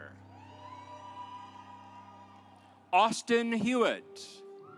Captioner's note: audience applauds